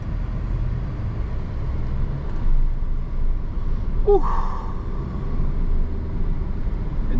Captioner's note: car engine roaring